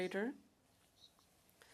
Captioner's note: speaking French